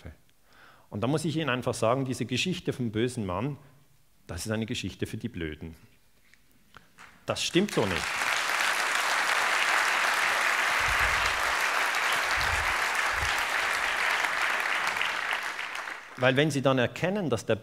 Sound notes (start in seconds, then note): 7.4 applause